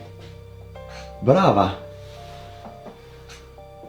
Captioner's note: foreign Language